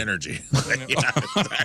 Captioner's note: laughing